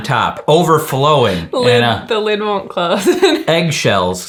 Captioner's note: chuckles